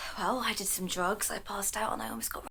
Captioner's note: none